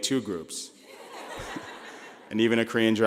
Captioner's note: laughing